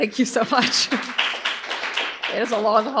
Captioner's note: audience applauds